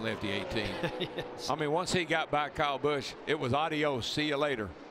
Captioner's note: chuckles